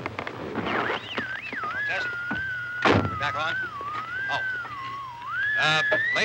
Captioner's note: radio comes on